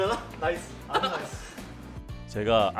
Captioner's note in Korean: 웃음소리